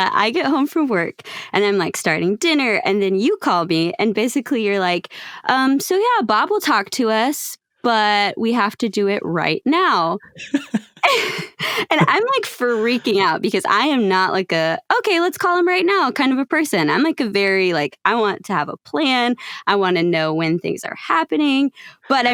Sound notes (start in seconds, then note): 10.3 loughs